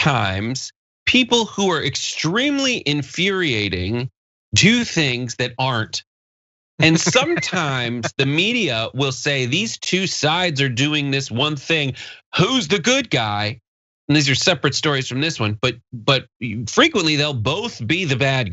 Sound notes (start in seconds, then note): 6.8 laugh